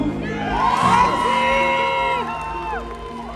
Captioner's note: cheers